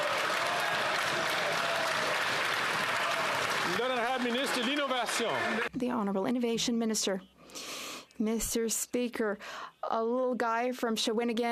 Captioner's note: some Applause